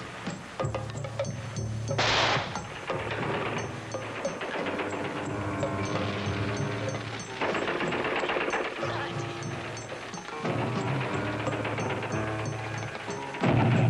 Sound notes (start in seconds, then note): 2.0 guns firing; 10.6 explosions booming